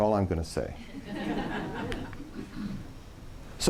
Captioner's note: laughing